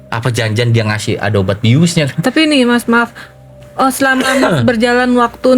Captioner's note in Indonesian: berdehem